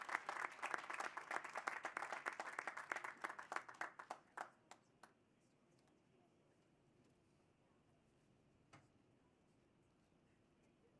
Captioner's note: cheers and applause